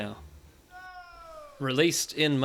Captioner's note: a voice echoes "Nnooo!